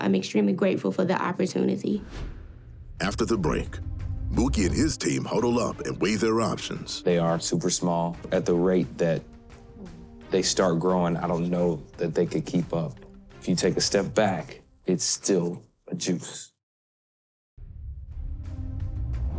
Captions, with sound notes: I'm extremely grateful for the opportunity. (air whooshing) After the break, (gentle upbeat music begins) Mookie and his team huddle up and weigh their options. They are super small. At the rate that they start growing, I don't know that they could keep up. If you take a step back, it's still a juice.